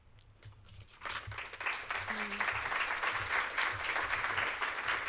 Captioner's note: applause